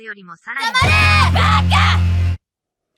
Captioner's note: screams in Japsterdamish